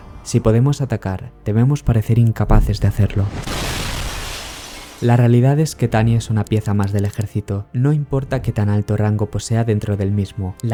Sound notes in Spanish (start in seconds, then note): 2.5 explosión